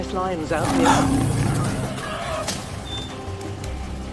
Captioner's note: lion roaring